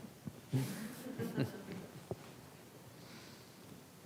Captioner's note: class laughs